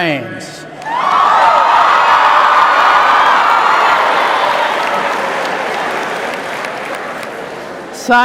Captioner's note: cheers